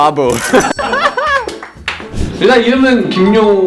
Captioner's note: laughter